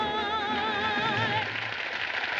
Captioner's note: applause